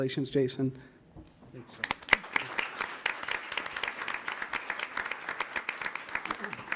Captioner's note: audience applauds